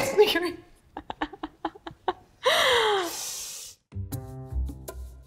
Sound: both laughing; light music

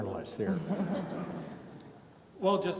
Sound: audience chuckles

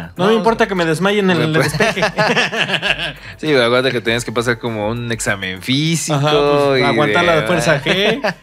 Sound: laughs

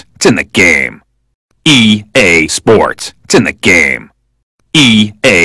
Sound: repeating speech

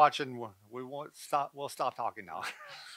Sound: stutters; laughing

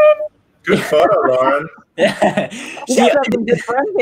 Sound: group chuckling

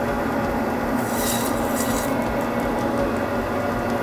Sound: cutting sound

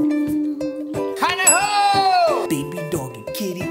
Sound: shouting

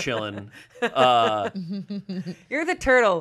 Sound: laughs

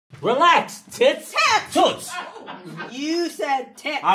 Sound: audience laughing

